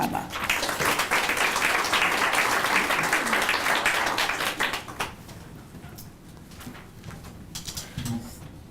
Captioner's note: applause